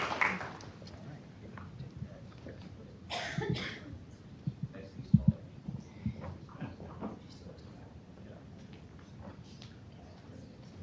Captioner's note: applause